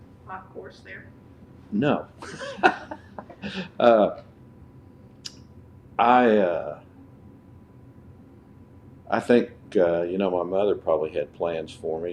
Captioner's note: laughter